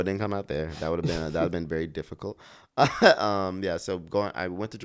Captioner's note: laughs